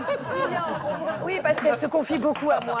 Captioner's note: laughter